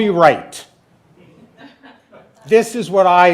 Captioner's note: laughing